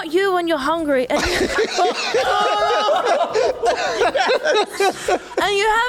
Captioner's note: Laughs in a MF'n Snickers Ad